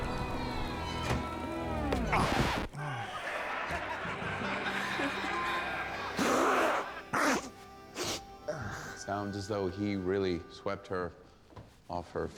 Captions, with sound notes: [WINCING] [LAUGHTER] [BLOWING NOSE LOUDLY] SOUNDS AS THOUGH HE REALLY SWEPT HER OFF HER FEET.